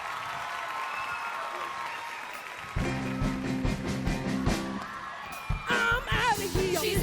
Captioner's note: applause